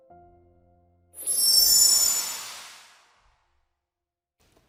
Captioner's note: logo sparkling